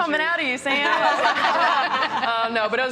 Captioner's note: laughter